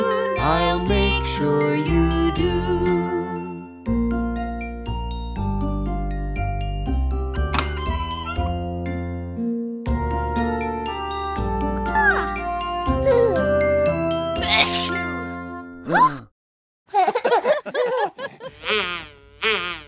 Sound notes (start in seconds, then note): 3.7 soft music; 7.4 door opening; 10.0 soft music; 14.5 mom sneezes; 16.2 dad and baby gasps; 17.0 everyone laughing